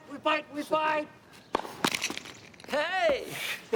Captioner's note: Rene laughs; tennis ball thwacks; laughs